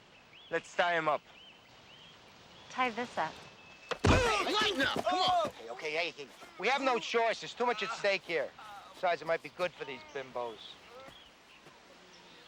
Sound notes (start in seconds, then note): 3.9 body thudding; 4.1 Martinez groaning